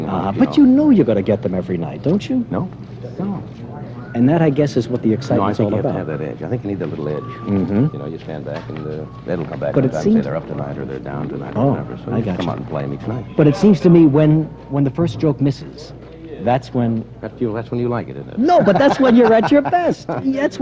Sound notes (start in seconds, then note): 18.5 laughter